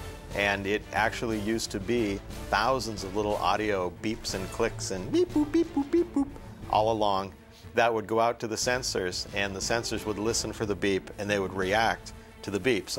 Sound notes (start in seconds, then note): 5.2 beeping